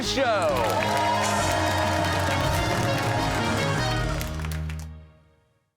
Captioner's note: cheers and applause